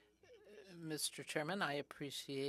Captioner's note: speaking in french